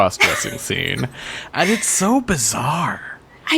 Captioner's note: laughs